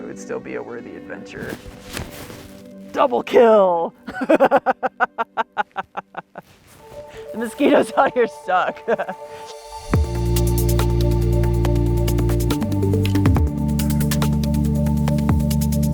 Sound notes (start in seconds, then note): 4.0 laughing; 10.0 upbeat ambient music